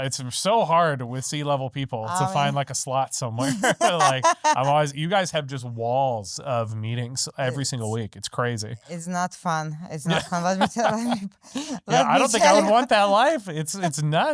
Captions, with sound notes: So hard with C-level people to find like a slot somewhere. (laughing) You guys have just walls of meetings every single week. It's crazy. It's not fun. It's not fun. Let me tell you. I don't think I would want that life. It's nuts.